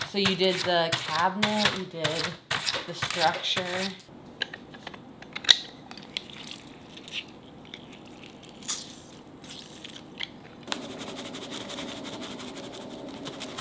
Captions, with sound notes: So, you did the cabinet. You did the structure. (juice squeezing)